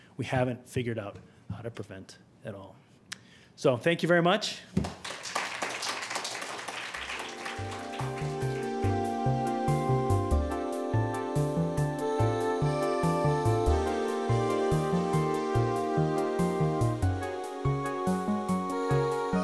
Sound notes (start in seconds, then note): 4.8 audience clapping; 7.1 upbeat instrumental music